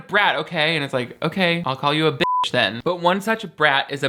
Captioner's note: beep